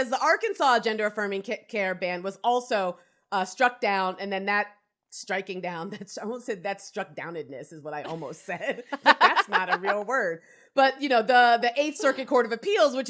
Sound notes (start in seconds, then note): 8.0 laughs